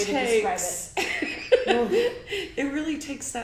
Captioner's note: laughs